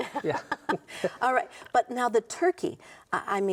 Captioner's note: laughs